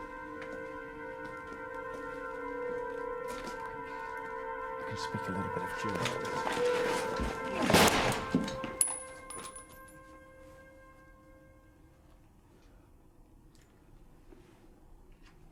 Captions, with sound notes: [tense music] I can speak a little bit of German, but… [gunshot]